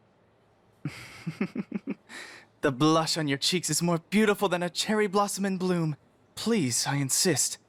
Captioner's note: soft chuckle